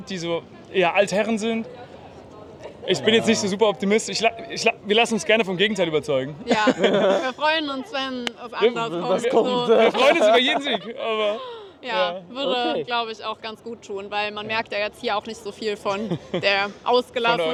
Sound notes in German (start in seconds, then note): 6.4 gelächter